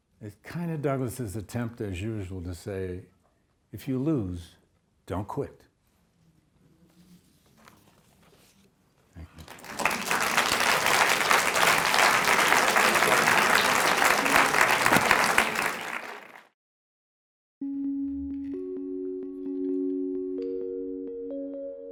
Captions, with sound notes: It's kind of Douglass's attempt as usual to say, "If you lose, don't quit." Thank you. (audience applauds) (gentle music)